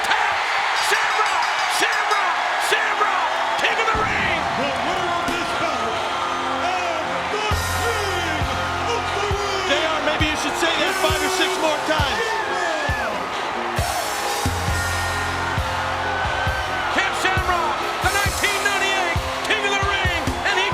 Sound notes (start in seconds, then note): 13.0 crowd cheers; 13.0 energetic rock music